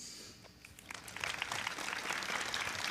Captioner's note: applause